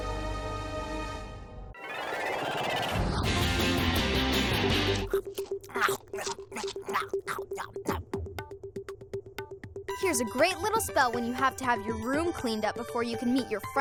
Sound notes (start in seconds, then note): 5.0 chewing